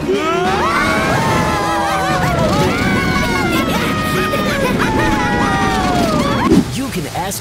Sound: cheering, laughing

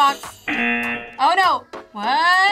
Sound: buzzer rings; buzzer

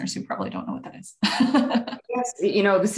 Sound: laughing

